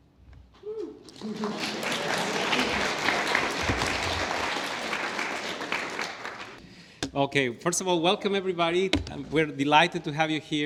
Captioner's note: applause